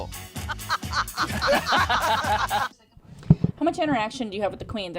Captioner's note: laughing